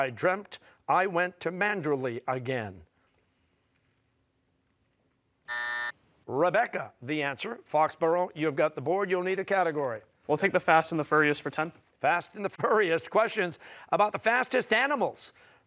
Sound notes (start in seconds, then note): 5.4 buzzer